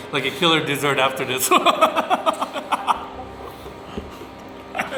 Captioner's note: laughing